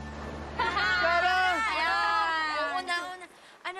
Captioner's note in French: laughter